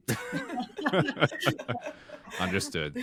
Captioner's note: all laughing